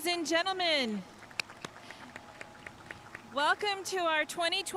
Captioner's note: audience clapping